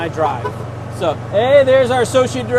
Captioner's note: hooter toots